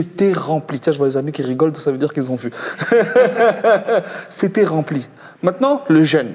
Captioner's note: laughs